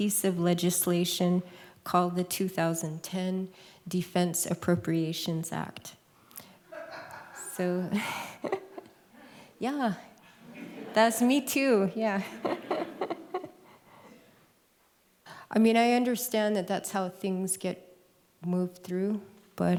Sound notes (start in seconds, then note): 6.6 laughs; 6.7 laughter; 12.2 laughs